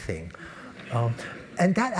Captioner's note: laugh